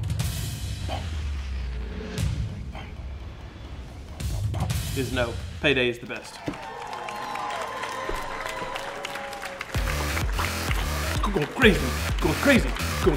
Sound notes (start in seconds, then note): 5.8 clapping; 9.5 techno music